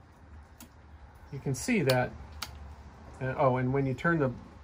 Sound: switching sounds

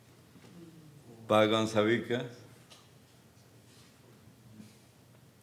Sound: speaking Spanish

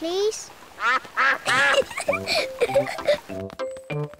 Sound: quacks; giggles

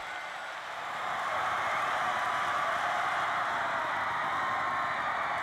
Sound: cheers and applause

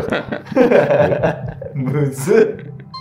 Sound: laughing

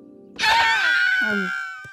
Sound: screaming

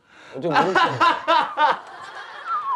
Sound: laughing

